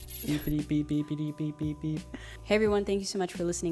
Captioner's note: makes beeping sounds